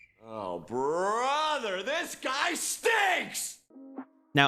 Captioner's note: man shouting